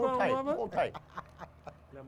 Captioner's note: laughs